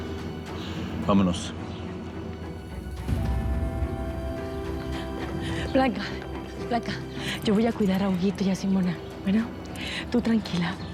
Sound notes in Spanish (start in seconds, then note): none